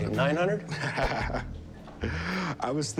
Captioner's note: laughs, inhales